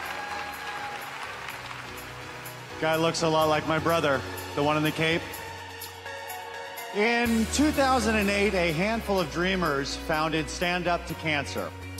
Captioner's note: applause